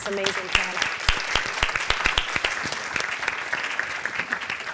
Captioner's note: applause